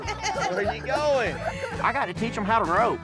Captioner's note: kids laughing